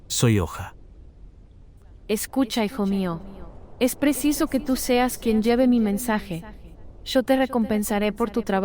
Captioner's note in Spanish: Voz - Virgen María